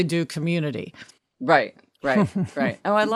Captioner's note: laughing